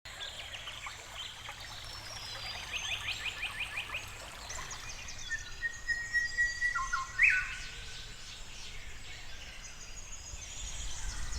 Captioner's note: birds tweeting, water flowing